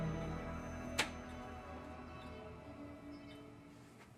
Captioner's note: light clicking